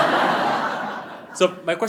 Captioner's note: laughing; audience laughing